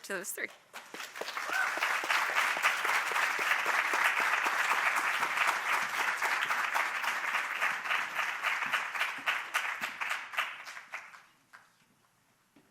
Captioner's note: applause